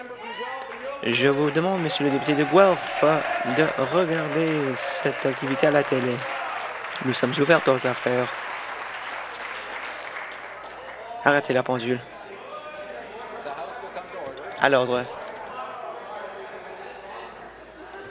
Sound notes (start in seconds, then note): 8.1 applause; 12.2 applause